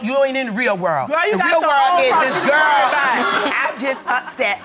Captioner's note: audience laughing